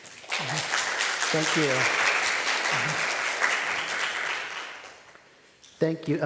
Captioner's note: audience applauding